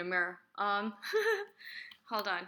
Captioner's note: laughs